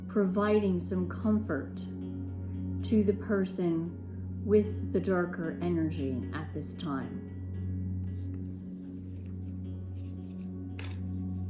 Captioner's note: cards shuffling